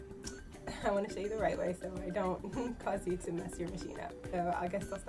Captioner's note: laughs